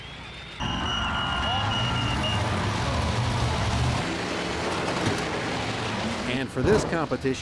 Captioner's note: whistle blows